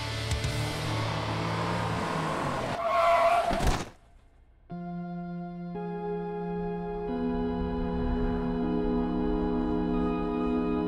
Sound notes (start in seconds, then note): 0.6 speeding sounds; 1.2 tires squeal; 4.7 ominous music